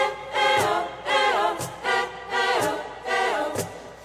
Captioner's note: chanting